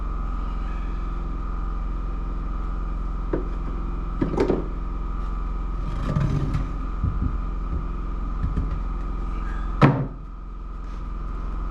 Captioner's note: knocking